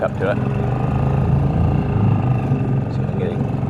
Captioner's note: engine rumbles